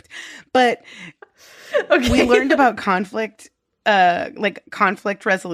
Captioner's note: laughing